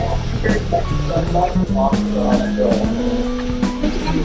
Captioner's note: laughs; torch burning